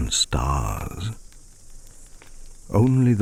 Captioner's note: fire crackling and night insect buzzing